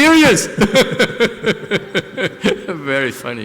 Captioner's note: laughter